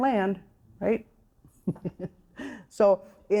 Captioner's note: chuckling